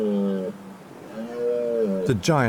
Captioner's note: stag bellows